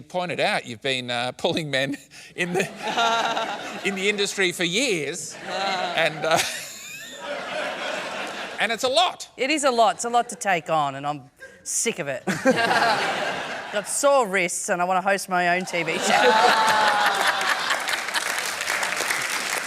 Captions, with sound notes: As you pointed out, you've been pulling men in the... (LAUGHTER) ..in the industry for years, and... (LAUGHS) And it's a lot! It is a lot. It's a lot to take on, and I'm sick of it. I've got sore wrists and I want to host my own TV show. (LAUGHTER AND APPLAUSE)